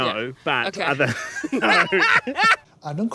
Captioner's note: laughs